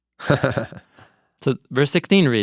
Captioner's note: person laughing